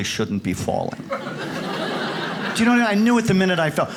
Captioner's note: audience laughs